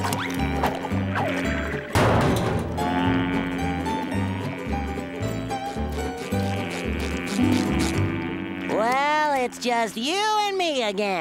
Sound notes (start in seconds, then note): 0.0 buzzing